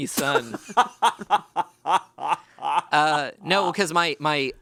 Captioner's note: laughs